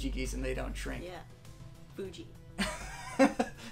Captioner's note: laughter